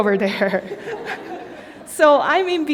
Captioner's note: laughter